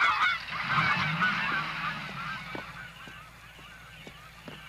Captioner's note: jeep leaving